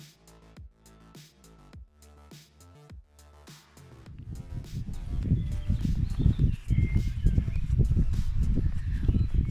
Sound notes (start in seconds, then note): 4.1 wind & birdsong